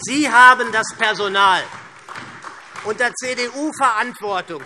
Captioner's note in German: Beifall SPD und DIE LINKE